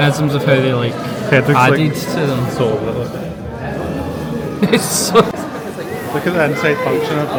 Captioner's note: laughs